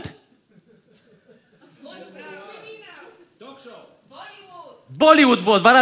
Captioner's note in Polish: krzyki publiczności